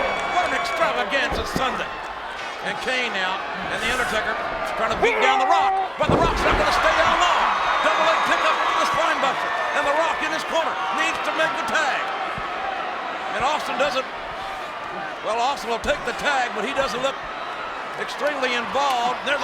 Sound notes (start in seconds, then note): 7.9 crowd cheering; 9.1 presenter speaking faintly off mic